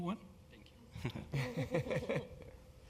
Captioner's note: laugh